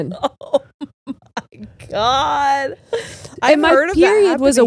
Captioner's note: laughs